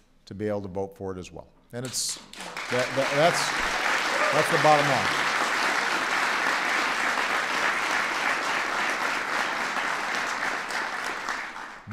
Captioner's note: applause